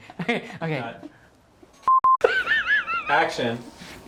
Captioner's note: laughter